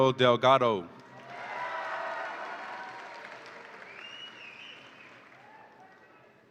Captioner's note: audience applauds and cheers